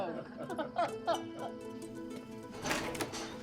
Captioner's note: both laugh